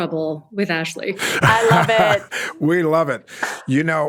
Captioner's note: claps hands